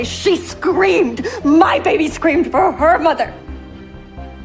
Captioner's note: shouting